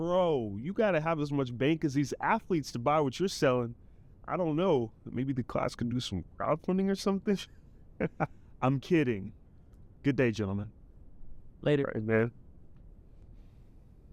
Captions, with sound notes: - Bro, you gotta have as much bank as these athletes to buy what you're selling. I don't know but maybe the class can do some crowdfund or something. (laughs) - I'm kidding. Good day, gentlemen. - Later. - All right, man.